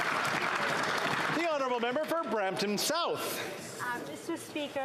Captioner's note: some Applause